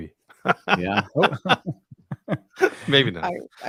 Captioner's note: laughing